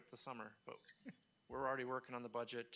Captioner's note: laughing